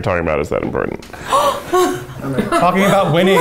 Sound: gasps

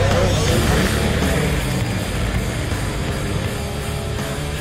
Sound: engine humming

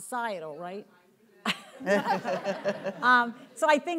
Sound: speaking faintly

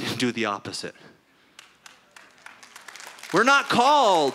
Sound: applause

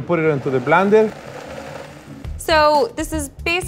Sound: blender running

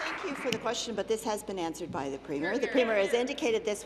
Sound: applause

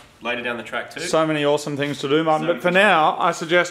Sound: none

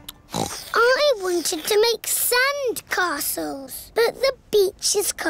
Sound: slurping; oinks

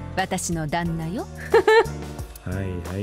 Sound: chuckles

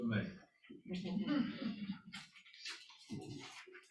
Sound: laughter

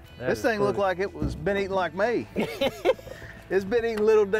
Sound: laughing

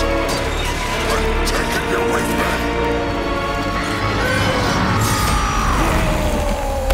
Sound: screams

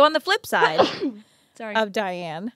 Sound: sneezing

